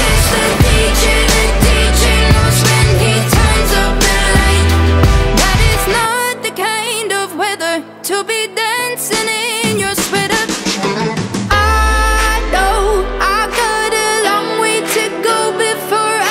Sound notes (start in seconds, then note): 11.1 distorted Voice